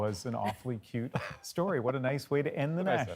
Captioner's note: laughter